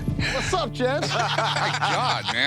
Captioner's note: laughter